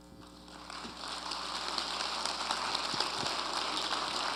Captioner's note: audience applauding